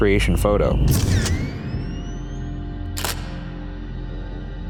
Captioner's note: camera shuttering